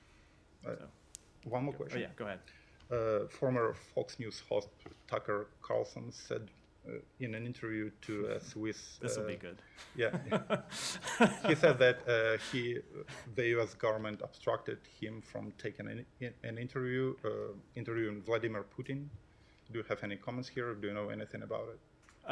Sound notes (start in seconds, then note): 9.8 laughter